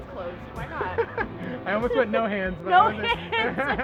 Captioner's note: laughs